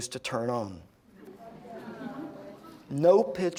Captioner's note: audience groans